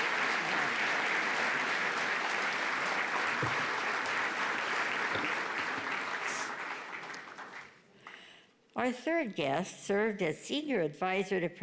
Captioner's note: applause